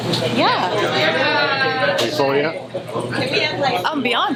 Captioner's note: crowd; chattering